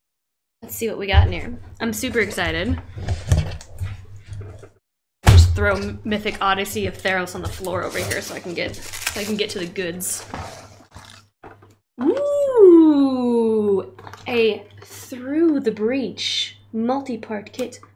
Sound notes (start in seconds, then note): none